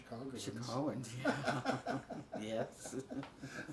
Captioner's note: laughs